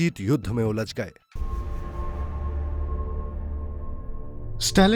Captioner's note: speaks russian